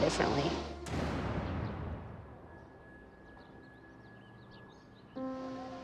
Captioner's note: birds chirping